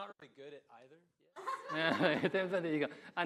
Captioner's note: audience laughing